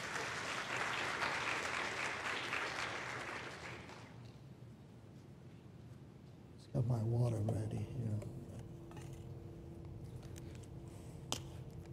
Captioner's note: applause